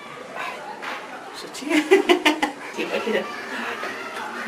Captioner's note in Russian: смеется